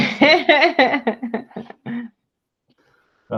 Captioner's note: laughs